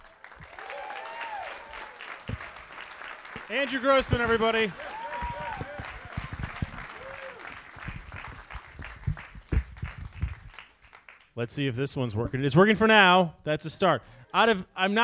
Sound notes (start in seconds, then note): 0.3 audience applauds; 5.1 audience applauds